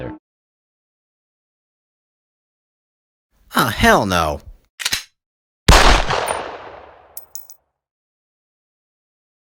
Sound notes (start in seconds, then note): 5.7 chambering pistol; 5.7 single gunshot